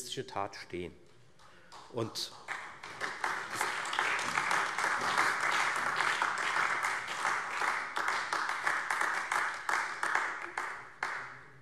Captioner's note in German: Allgemeiner Beifall